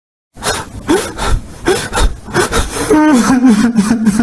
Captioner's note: Tank crying